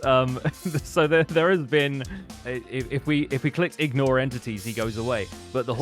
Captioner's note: laughs